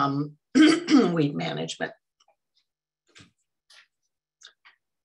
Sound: clears throat

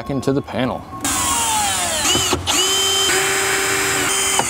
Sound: screwdriver hums

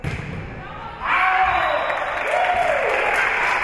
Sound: spectators cheering and applauding; whistle being blown

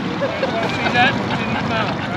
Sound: laughing

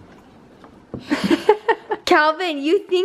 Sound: laughter

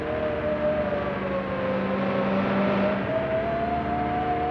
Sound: sirens

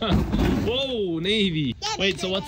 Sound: shopping cart crashes

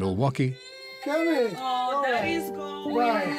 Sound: child crying

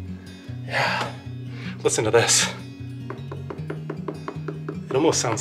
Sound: knocking sound

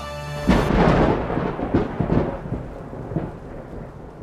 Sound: thunder clap

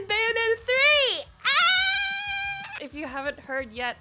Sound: squeals

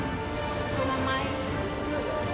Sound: speaking Tahitian

